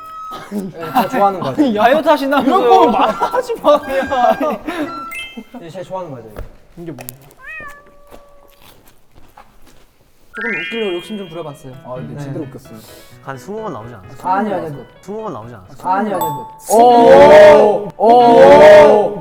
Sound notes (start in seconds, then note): 7.6 Crunch